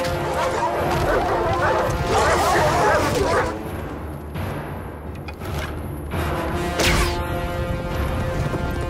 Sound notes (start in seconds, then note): 0.0 animals howl